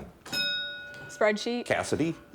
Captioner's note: bell dinging